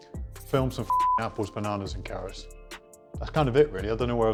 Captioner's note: beep